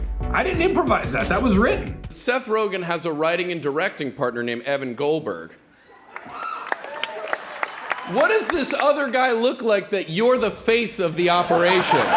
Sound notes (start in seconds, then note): 6.0 applauds